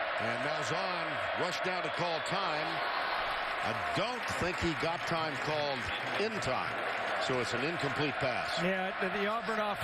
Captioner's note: crowd noise